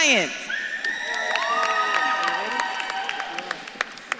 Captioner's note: audience claps and cheers